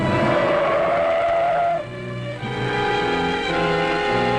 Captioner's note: tires squealing